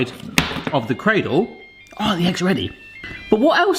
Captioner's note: appliance beeping